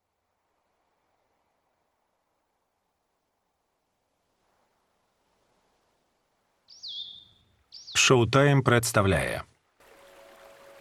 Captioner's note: birds chirping; water lapping